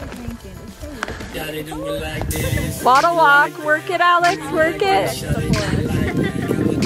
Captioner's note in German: lacht